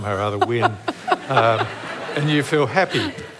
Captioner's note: laughter